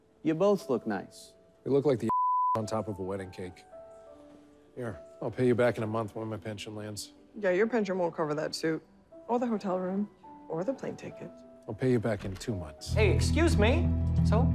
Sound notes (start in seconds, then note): 2.1 beeps; 4.0 gentle piano music continues; 12.8 ominous music